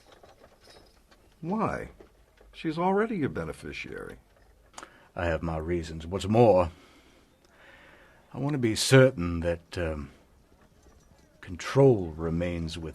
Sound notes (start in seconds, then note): none